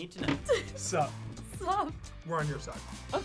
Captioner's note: laughs